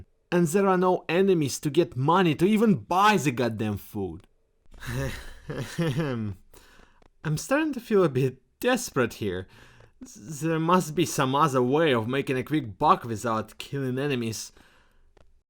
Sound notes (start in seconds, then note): 4.8 nervous laughter